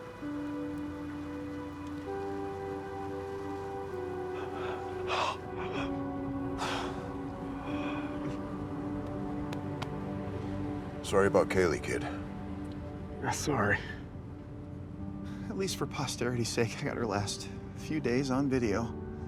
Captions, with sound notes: (gentle music) (Walter gasping) - Sorry about Chalee, kid. - That's all right. At least for posterity's sake, I got her last few days on video.